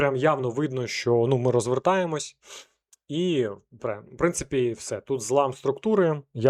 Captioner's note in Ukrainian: сопіння